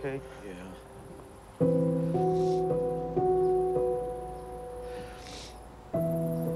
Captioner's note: sniffles